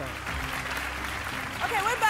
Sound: audience applause

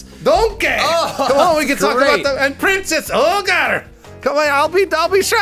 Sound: imitating Scottish accent

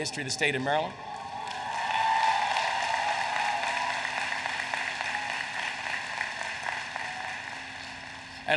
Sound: applause

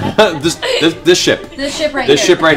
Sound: laughs

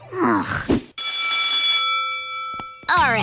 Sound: bell ringing

